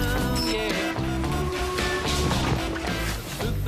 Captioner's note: beeping